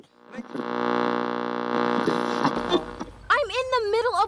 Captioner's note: radio static